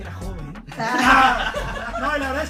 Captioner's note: laughter